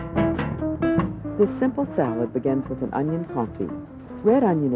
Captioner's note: voiceover